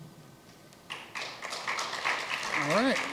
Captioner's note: applause